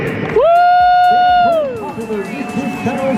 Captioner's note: audience cheering